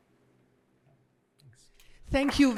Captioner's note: applause